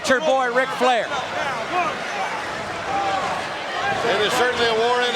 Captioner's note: audience cheering